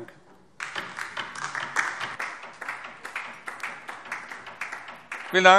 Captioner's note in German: Beifall DIE LINKE